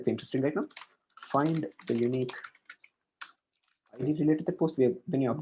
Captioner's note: keys clicking